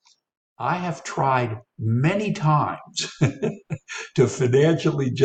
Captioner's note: laughs